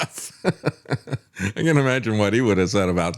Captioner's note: laughs